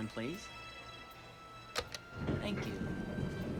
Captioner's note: click